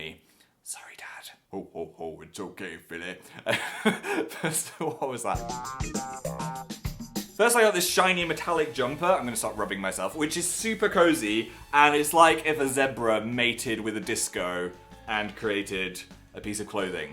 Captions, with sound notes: sorry Dad ho ho ho, it's ok Philly *laughs* what was that first I got this shiny metallic jumper I'm going to stop rubbing myself which is super cosy and it's like if a zebra mated with a disco and created a piece of clothing